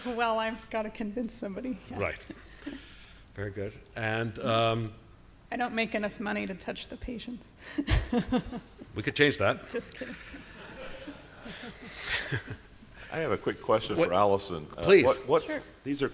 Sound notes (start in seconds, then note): 1.7 chuckles; 7.8 chuckles; 9.8 chuckling